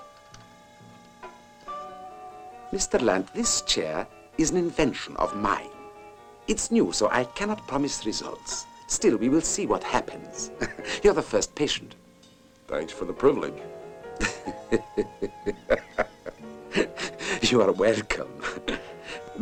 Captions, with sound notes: Mr. Land, this chair is an invention of mine. It's new, so I cannot promise results. Still, we will see what happens. [CHUCKLES] You're the first patient. Thanks for the privilege. [LAUGHING] You are welcome.